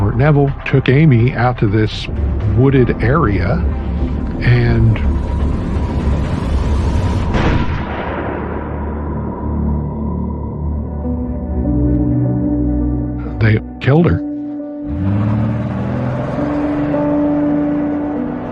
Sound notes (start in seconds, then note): 7.4 gunshot echoes; 14.7 melancholy melody